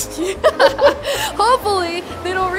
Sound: laughs

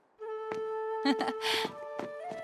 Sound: chuckles

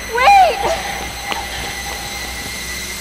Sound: scared breathing

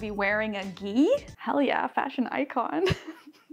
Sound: chuckles

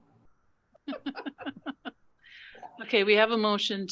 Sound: laughing

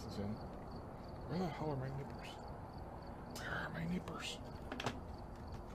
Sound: whispering

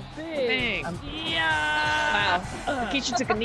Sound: laugh

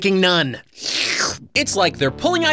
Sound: sluuuurp

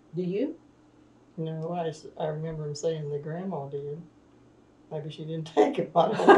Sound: laughs; laughter

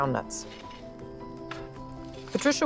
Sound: hoe scrapes

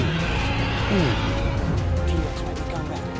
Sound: T-rex roaring

